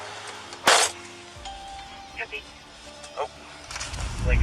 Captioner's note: door slamming